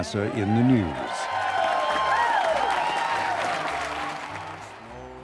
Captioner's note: crowd cheering